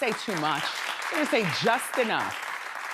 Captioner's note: audience applauds